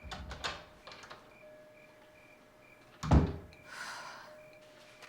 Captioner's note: crickets chirping; door opening and closing